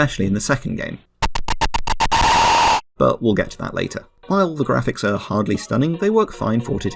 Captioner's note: satanic static